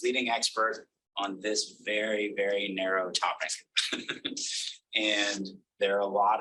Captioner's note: laughs